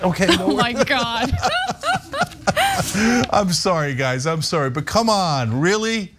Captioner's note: laugh